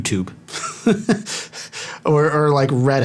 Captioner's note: laughter